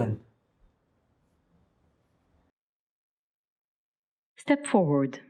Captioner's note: silence